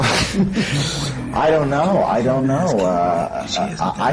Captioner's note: laughter